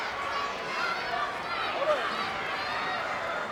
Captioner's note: fans chattering